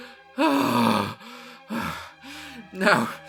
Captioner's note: sigh